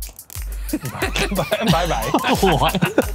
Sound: laughing

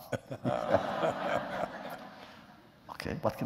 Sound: laughter

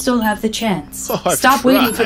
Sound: laughs

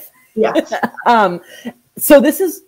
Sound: laughs

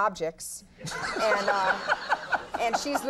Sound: audience laughing

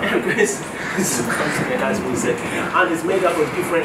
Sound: chuckles

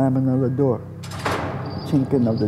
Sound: cell door slamming

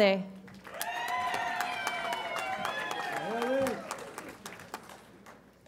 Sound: audience applauds and cheers

